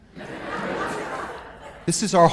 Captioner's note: audience laughs